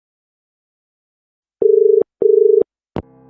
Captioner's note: dial tone